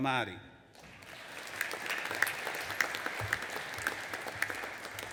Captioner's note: audience applauding